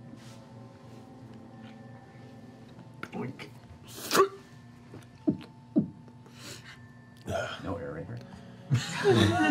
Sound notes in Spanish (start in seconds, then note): 4.6 ruido de tapón; 7.2 suspiro; 8.7 risas